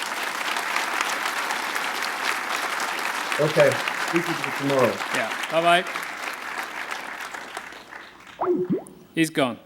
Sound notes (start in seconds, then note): 1.4 applause